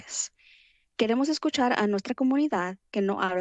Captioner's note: foreign language